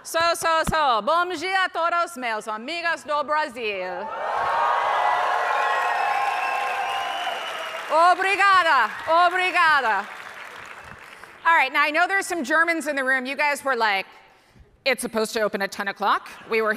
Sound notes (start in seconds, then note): 0.2 speaking foreign language; 4.0 audience cheering; 7.9 speaking foreign language